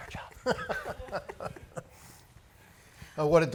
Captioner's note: laughing